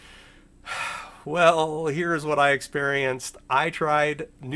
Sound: sighs

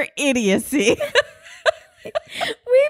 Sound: both laugh

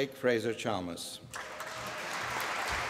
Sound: applause

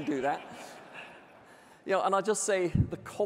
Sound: audience laughing

